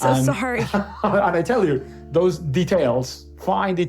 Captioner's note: laughs